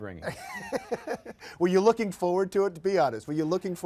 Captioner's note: both laugh